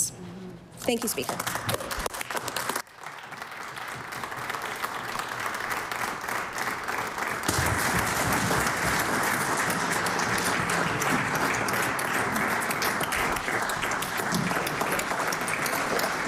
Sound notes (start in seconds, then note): 5.3 applause